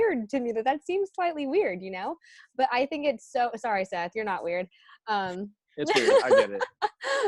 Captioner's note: laughs